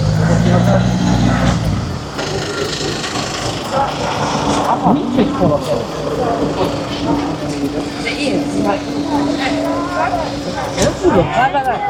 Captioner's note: street noise